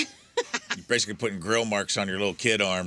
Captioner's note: laughter